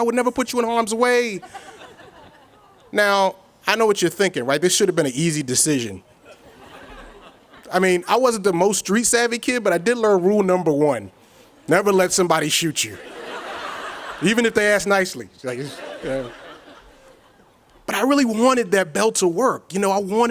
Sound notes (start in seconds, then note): 6.2 audience chuckles; 12.8 audience laughs; 15.5 audience chuckles